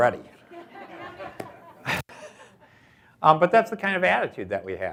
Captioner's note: audience laughs